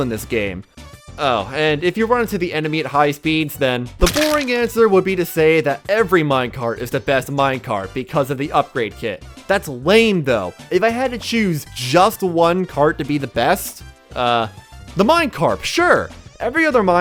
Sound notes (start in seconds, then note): 4.0 splat